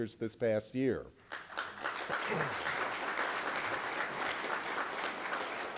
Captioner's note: applause